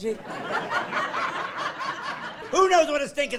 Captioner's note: laughing